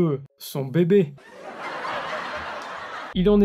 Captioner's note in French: Rires enregistrés